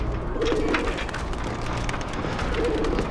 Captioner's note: pigeon cooing